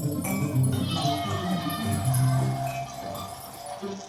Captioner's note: children's laughter